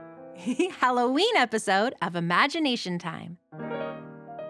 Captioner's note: giggles